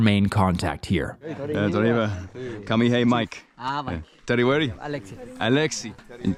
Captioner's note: speaking foreign language